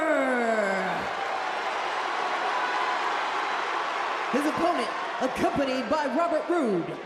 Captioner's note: crowd cheers